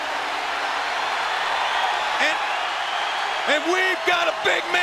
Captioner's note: audience cheers